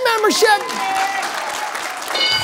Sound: applause; bell dings

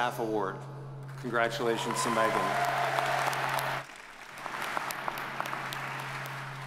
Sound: audience cheers and applauds

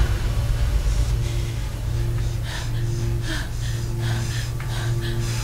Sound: heavy breathing

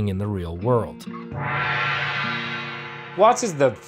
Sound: gong rings

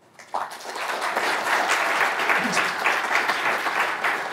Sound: audience applauding

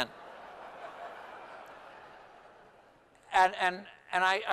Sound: laughter

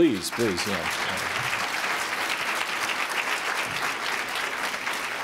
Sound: applause

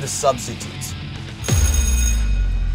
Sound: bell ringing

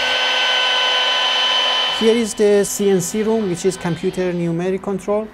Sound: sawing

